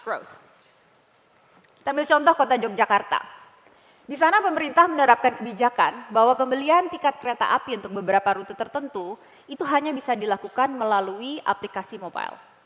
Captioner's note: non-english speech